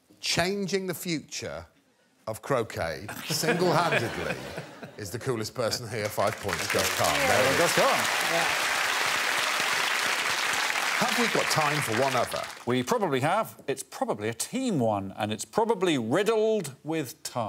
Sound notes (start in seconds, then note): 8.6 audience applause